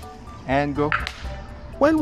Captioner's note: clap!